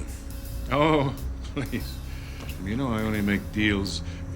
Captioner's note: chuckling